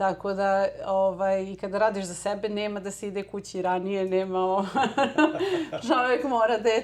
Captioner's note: laughter